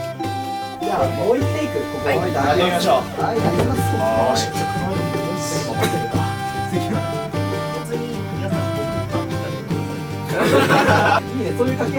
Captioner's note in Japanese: 群衆の声